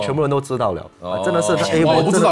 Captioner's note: Ohh